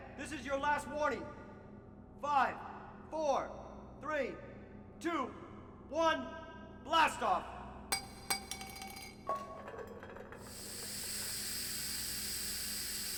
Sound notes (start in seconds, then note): 7.9 can clattering on floor; 9.2 can hissing